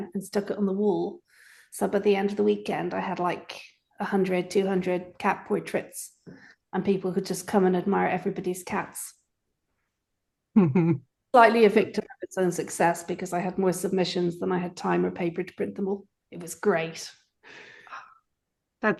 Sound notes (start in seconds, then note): 10.6 chuckles